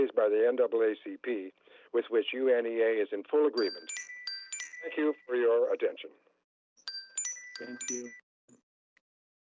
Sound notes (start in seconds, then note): 3.6 chime